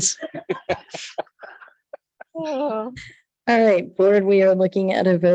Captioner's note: members laughs